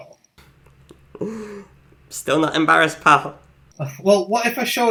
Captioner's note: chuckles